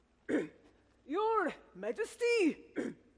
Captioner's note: clears throat